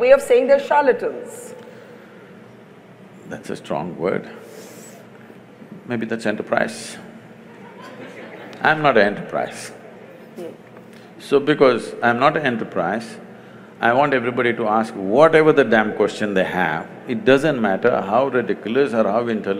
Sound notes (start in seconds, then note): 7.4 laughter